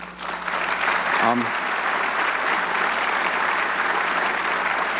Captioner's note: audience clapping